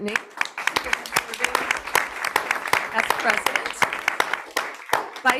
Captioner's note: audience clapping